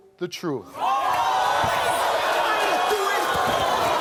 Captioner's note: crowd jeering